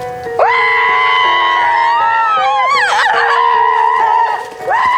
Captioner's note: screaming